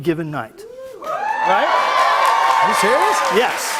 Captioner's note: cheers and applause